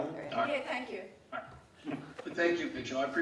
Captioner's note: laughing